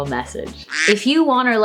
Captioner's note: duck quack